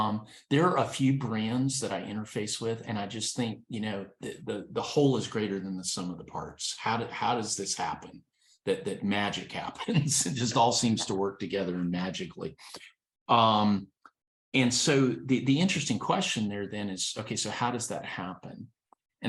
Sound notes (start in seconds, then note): 9.8 laughs